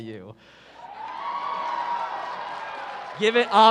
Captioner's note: cheering